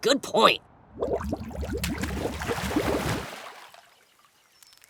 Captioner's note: bubbling and splashing